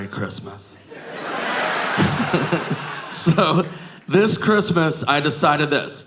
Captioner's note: audience laughing